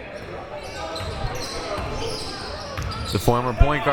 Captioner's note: shoes squeaking